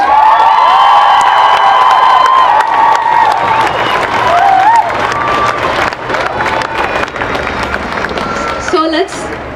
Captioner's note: cheering